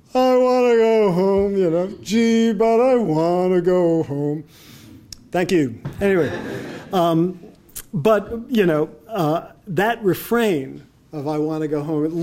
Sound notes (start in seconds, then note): 6.0 audience laughing